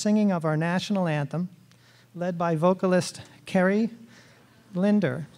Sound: none

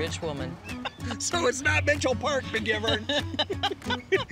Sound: laughter

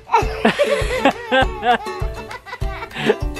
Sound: laughing

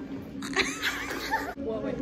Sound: laugh

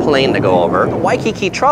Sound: plane flying overhead

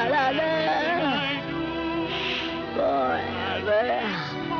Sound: gulliver blowing

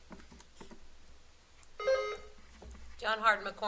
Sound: buzzer sounding

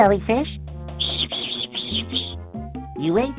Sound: buzzing

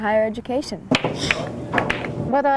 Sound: pool balls colliding

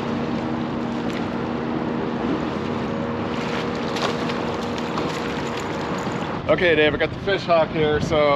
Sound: fish splashing

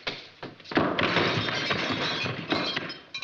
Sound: glass shattering

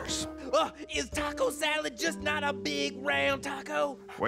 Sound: gasps

